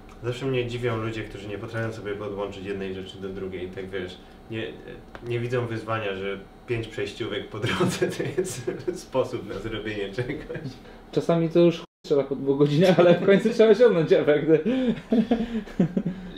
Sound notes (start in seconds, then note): 7.6 laughter; 14.6 both laugh